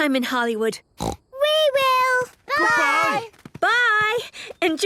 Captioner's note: snort